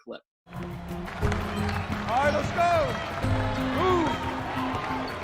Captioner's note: cheering and Clapping